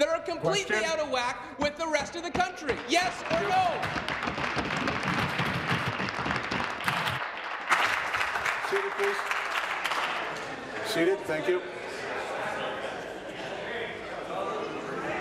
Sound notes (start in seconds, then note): 8.0 applause